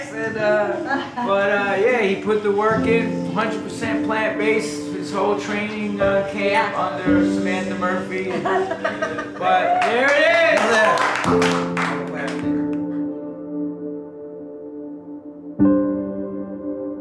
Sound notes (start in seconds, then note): 9.7 clapping; 14.0 calm piano music